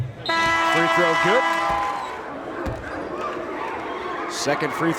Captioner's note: horn blares